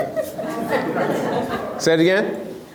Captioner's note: laughs